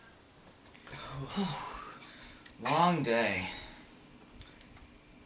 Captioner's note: sigh